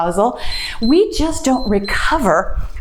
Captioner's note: timer beeps